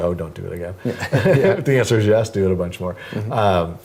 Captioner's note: laugh